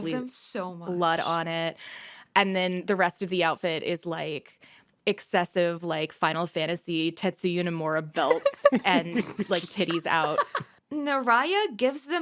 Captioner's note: laughter